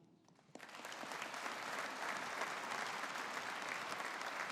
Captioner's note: audience applauding